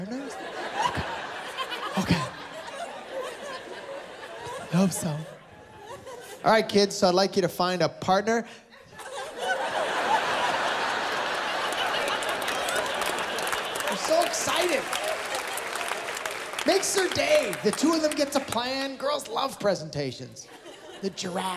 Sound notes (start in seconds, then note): 4.5 laughter; 14.3 laughter; 17.1 laughter, applause